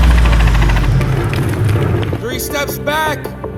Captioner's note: helicopter noises; feet running on pavement